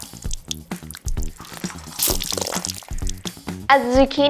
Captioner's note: towel squishes